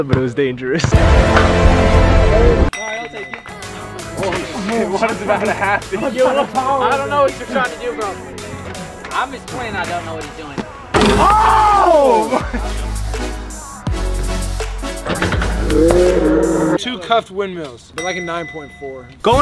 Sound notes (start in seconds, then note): 2.7 chime; 4.4 murmurs